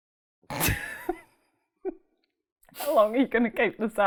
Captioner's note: laughs